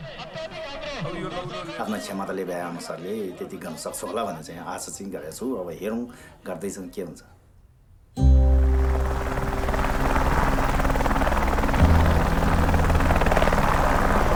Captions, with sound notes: (speaking in Sherpa language) I’m hoping to do as much as I am capable of. Let’s see how far we go. (slow guitar music) (helicopter blades whir)